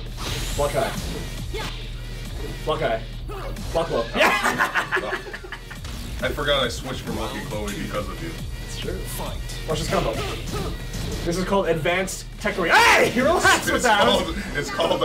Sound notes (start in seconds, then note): 4.1 laugh